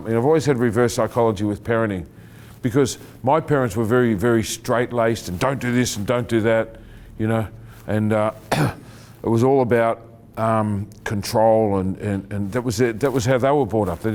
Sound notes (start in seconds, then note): 8.4 clearing throat